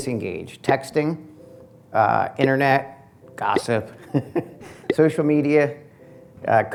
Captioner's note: laugh